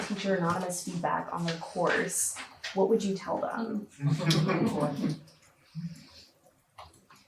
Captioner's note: audience chuckles